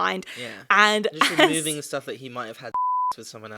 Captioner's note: beep